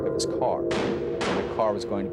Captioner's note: gunfire popping